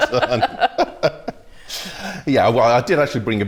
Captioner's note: laughter